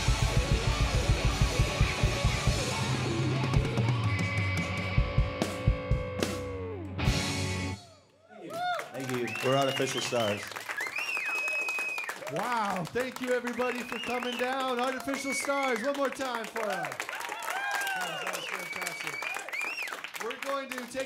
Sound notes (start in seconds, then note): 8.7 applause